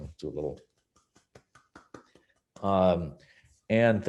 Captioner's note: clapping